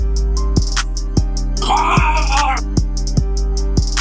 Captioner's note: gargling